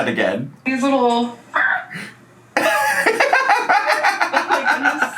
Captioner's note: dog sounds; laughing